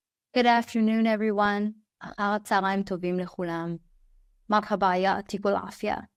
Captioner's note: speaking foreign language